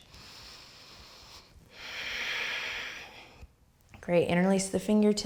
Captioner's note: deep breathing